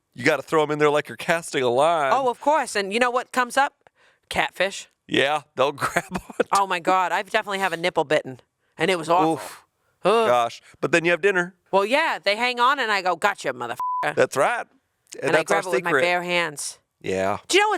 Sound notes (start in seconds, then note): 5.8 chuckling; 13.7 beep